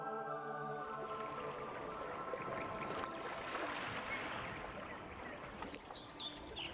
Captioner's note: sounds of water burbling and birds chirping